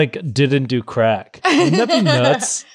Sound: laughs

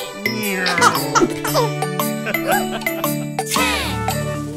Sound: laughing

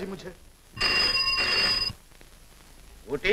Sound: telephone Ringing

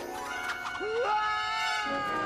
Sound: screams

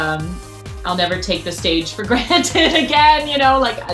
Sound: laughs

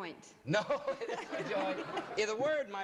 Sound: laughs

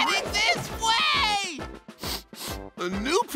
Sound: sniffling

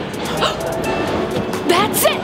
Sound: gasp

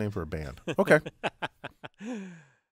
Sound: laugh

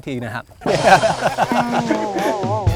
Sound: laughing

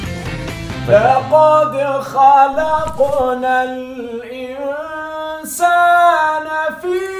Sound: reciting Quran

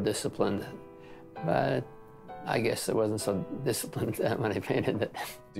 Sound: laughs

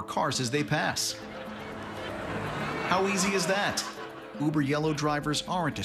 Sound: tires squealing

